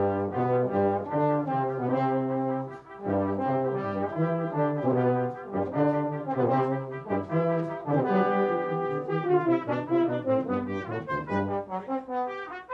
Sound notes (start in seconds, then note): none